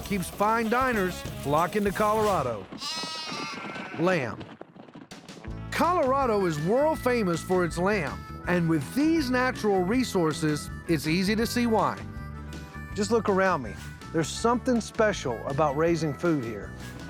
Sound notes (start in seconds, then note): 2.7 baaing